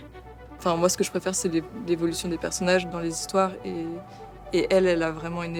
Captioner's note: in french